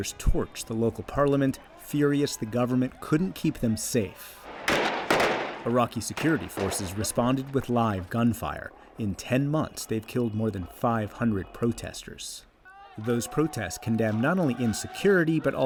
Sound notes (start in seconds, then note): 4.4 gunfire